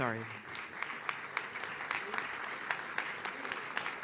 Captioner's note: audience claps